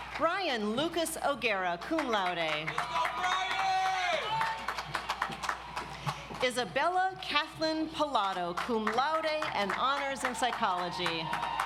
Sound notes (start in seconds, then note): 0.0 audience applauds; 1.6 audience applauds